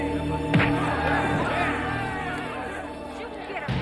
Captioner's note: suspenseful music; group clamoring; weapon thuds